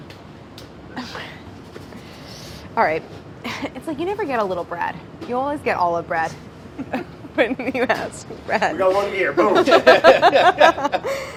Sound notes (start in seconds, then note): 9.4 laughing